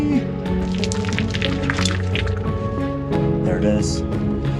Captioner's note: crunching rocks